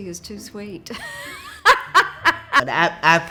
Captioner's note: loudly laughs